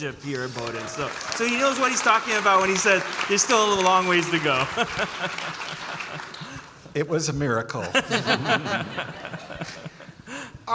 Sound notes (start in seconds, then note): 5.0 audience applauding; 7.8 all laughing